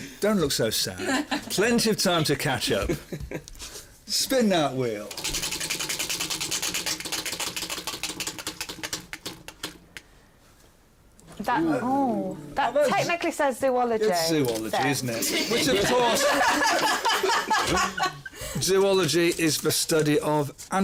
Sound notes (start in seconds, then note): 5.1 wheel spinning